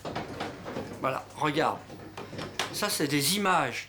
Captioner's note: speaking French